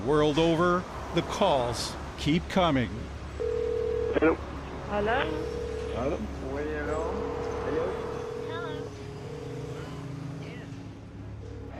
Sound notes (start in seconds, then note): 5.0 phone ringing